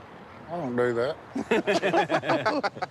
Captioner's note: laughter